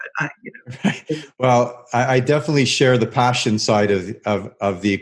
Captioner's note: laughs